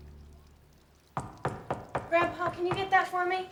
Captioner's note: knocking